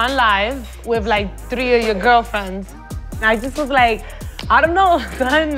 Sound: none

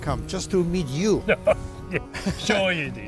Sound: laughing

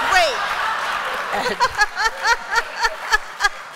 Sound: laughter

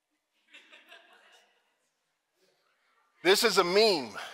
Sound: audience laughing

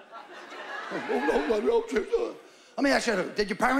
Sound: stammering

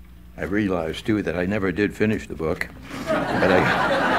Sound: laughter

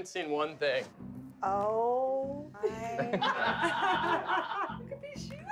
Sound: laughter

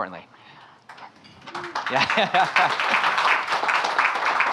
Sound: audience applauding

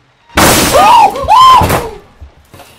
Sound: crash; screams

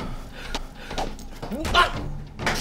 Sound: smack

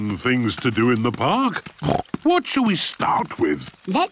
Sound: snorts

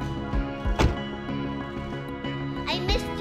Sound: car door slamming shut

